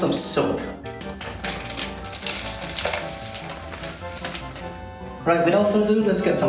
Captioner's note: laundry powder dropping into bucket and onto mousemat